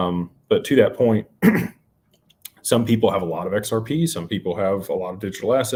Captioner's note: clears throat